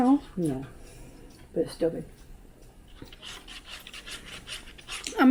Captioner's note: none